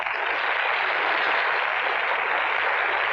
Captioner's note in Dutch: applaus